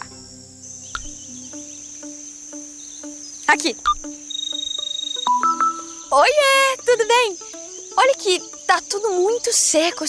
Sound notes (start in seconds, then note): 0.1 forest noises; 3.8 mobile phone ringing